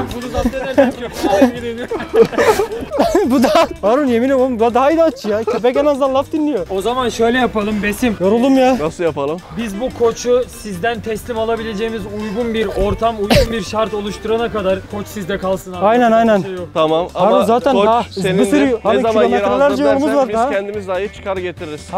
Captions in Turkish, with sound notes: + "Bunu zapt edersem köpeği alıp gideyim" diyor. (Gülüşmeler..) - Yemin ediyorum bu daha inatçı. - Köpek en azından laf dinliyor. + O zaman şöyle yapalım Besim. - Yoruldum gerçekten. - Nasıl yapalım? - Biz bu koçu, sizden teslim alabileceğimiz... ...uygun bir ortam, uygun bir şart oluşturana kadar... ...koç sizde kalsın. Yapacak bir şey yok. - Tamam. Ama koç senindir. - Ne zaman istersen biz kendimiz sana getiririz. Sıkıntı yok.